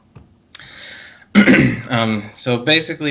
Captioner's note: clears throat